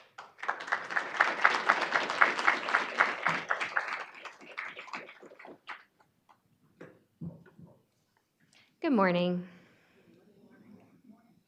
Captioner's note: applause